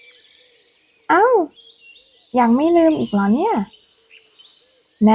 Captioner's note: surprised